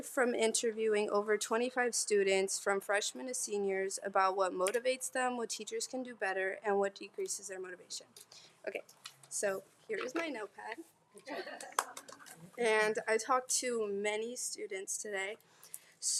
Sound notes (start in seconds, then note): 11.2 attendees laughing